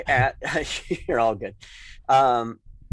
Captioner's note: chuckles